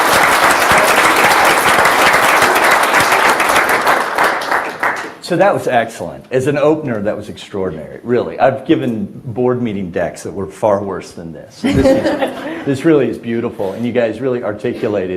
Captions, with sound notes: - So that was excellent. As an opener, that was extraordinary. Really. I've given board meeting decks that were far worse than this. [everyone laughs] This really is beautiful. And you guys really articulated I think